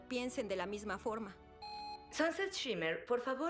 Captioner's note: intercom beeps